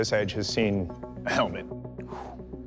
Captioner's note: exhales